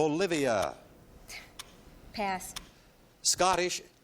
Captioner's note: scoffs